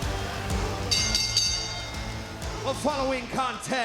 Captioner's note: bell dinging